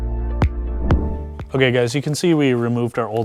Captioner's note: screen whooshing